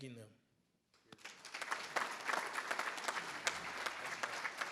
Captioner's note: everybody applauds